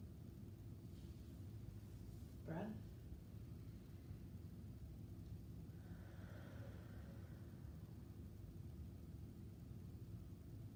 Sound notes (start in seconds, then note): 5.6 breathing deeply